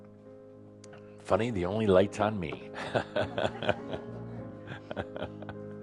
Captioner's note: Adamus laughs